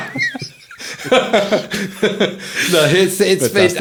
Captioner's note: laughing